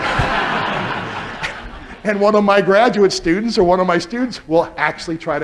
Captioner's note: laughter